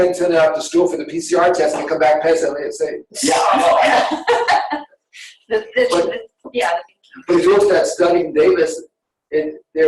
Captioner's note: laughter